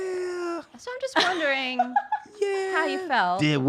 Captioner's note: laughs